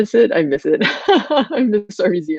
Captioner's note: laughing